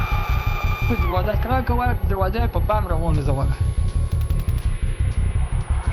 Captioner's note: person screaming; speaking foreign language